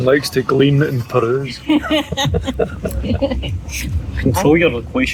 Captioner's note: laughter